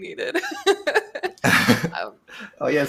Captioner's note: laughter